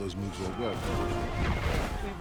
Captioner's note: grunting